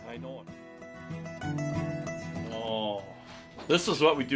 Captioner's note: voiceover